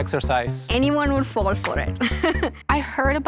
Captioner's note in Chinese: 笑聲